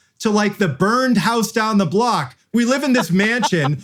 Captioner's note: laughs